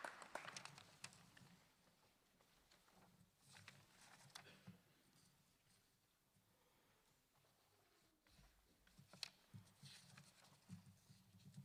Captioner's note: applause